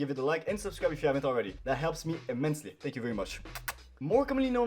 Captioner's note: kiss